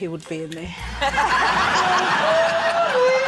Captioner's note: laughter